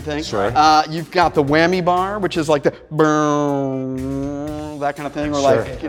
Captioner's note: mouth music